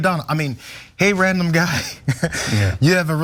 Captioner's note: laugh